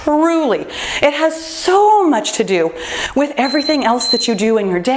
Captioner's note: timer beeps